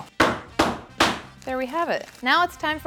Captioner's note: pin pounding